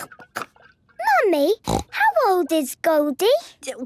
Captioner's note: snorting